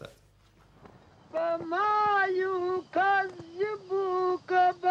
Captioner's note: chanting in Afghan